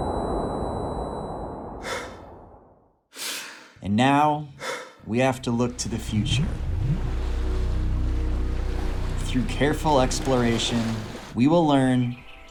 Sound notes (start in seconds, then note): 1.8 breathing; 7.2 waves